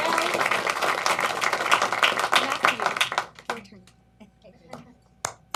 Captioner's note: applause